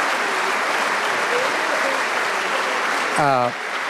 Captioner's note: applause